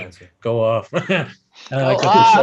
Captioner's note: chuckles; laughs